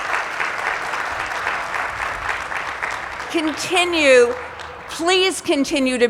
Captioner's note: applause